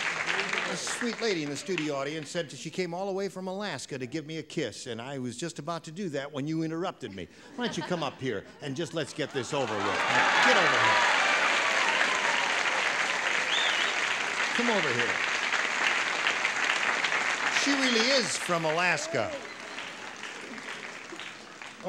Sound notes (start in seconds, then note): 12.9 applause